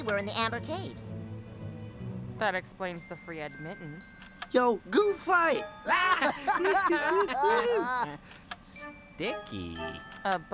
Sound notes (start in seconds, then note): 5.8 laughing